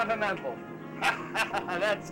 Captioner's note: laughing